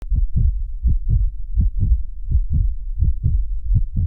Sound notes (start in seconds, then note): 0.0 heartbeat thuds